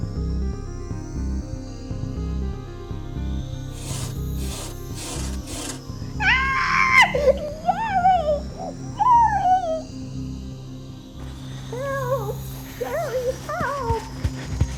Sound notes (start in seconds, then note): 3.7 scratching on window screen; 6.2 screams